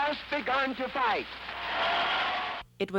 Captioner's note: crowd cheers